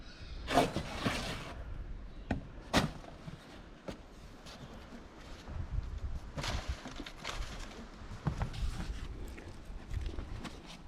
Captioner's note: wind blowing